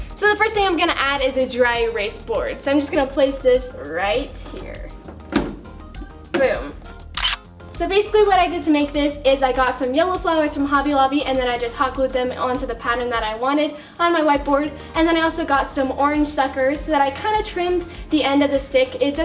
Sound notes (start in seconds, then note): 7.1 camera click